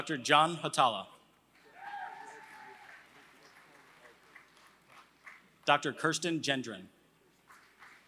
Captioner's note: applause; applause